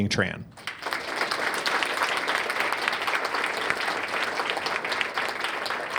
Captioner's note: applause